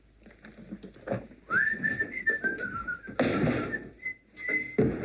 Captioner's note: whistling